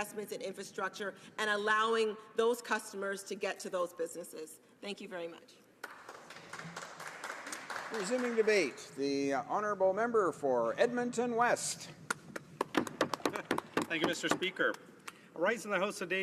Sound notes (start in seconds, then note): 12.6 applause